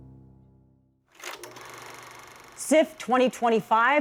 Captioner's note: film projector clicking